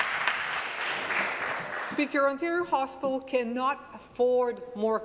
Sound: applause

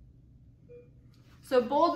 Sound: beeping

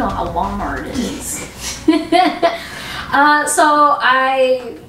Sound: laughter

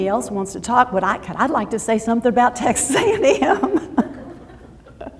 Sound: laughs

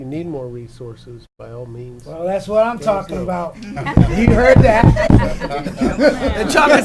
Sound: laughing

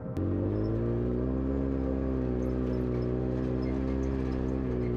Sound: engine humming

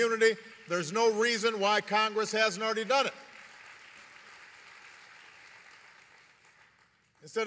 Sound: applause

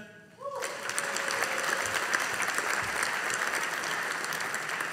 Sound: audience applauding

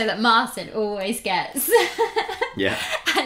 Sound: giggles

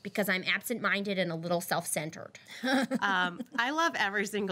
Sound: girl laughs

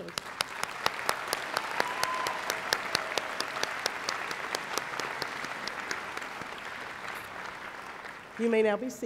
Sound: applause

